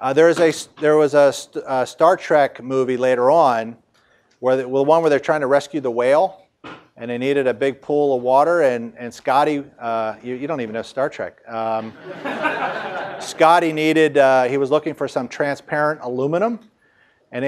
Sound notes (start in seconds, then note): 11.9 audience laughs